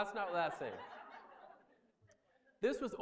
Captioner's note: laughter